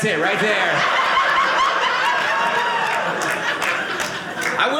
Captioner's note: audience laughing